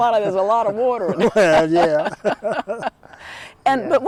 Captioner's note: laughter